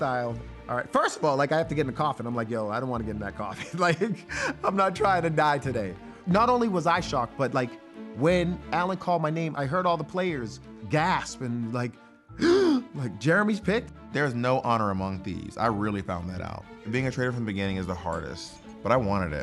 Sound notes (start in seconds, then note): 12.4 gasp